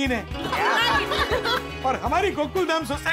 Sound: laughs

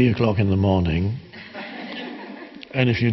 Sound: audience laughing

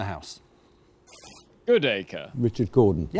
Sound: buzzer buzzes

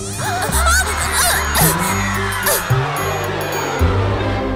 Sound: brakes squeal; tires screeching

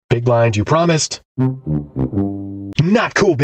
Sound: fail sound

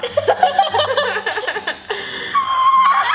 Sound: laughter

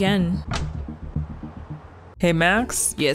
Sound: door opens

